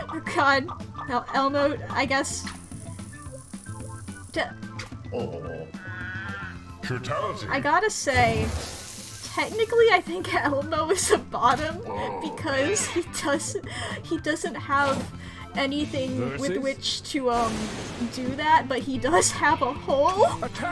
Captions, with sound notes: Oh, god, E-Elmo, I guess... D... I gotta say... [Through laughter.] Technically, I think Elmo is a bottom? [Though laughter.] Because he doesn't- he doesn't have... [Through laughter.] Anything with which to, um, do that but he does have a hole?